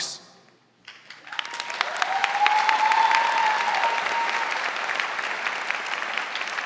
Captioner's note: audience cheering and applauding